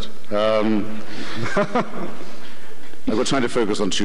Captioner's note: chuckles